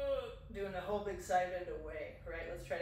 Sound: ugh

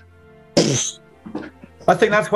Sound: splutters

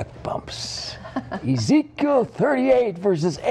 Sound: laughter

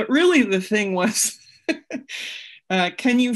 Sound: laughs

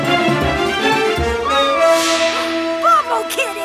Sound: meowing

